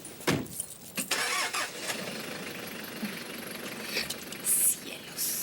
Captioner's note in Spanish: motor do carro acelerando